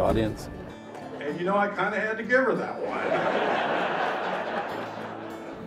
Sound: laughter

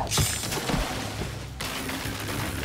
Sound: swoosh; sword swipe

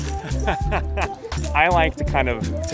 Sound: laughter

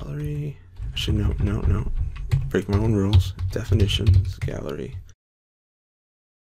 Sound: typing

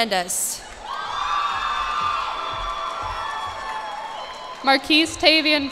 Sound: cheers and applause

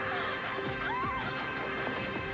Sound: Gabrielle shrieks

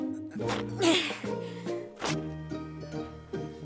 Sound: Oopsy gasps

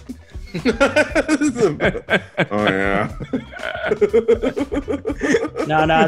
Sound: laugh

